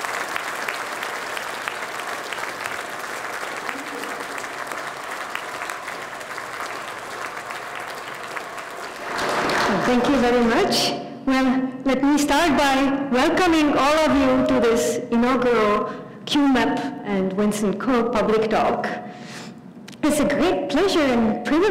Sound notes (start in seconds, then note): 4.5 applause